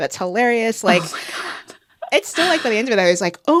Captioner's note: laughter